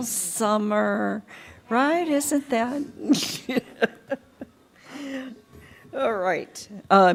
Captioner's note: laughter